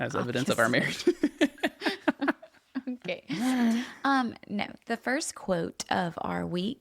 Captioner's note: laughs